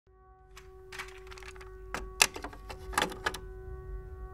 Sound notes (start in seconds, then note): 1.9 cassette tape loaded into player